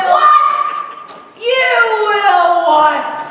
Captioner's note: none